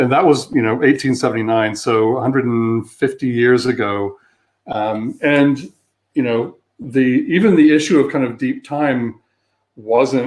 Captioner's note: erm